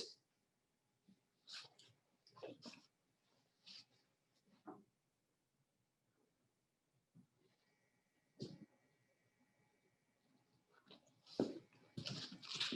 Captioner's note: silence